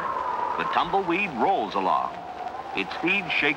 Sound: <i> static</i>; <i> wind blowing</i>

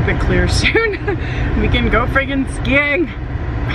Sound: laughs

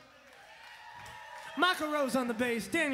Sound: crowd applauding

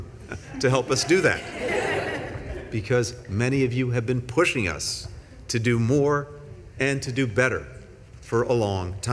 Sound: laughter

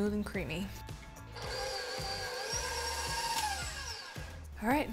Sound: mixer whirring

